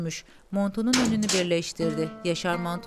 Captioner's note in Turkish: Kapı açılma sesi